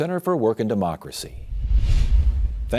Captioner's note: screen whooshing